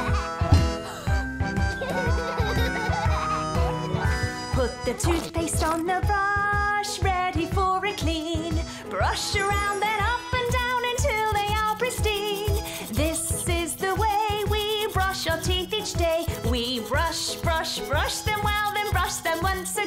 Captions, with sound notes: [laughter] (SINGING) Put the toothpaste on the brush ready for a clean. Brush around then up and down until they are pristine. This is the way we brush your teeth each day. We brush, brush, brush them well then brush them once again.